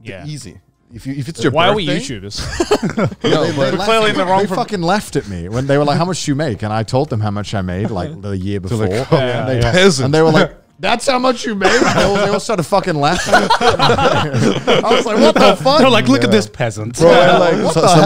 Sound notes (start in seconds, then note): 13.0 all laughing